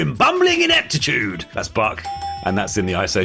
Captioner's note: dinging